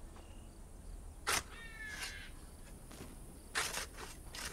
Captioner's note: shovels scraping